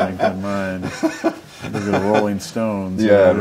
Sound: laughs

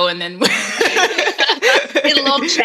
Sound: laughing

